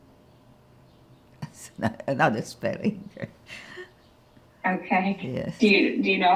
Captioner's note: laughing